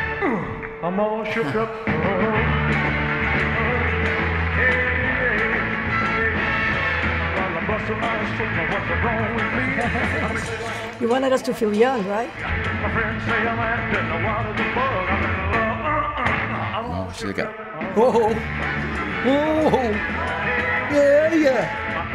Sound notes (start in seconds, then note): 0.2 grunts; 9.6 laughs; 15.7 grunts; 16.7 singing along